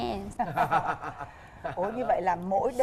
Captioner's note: giggling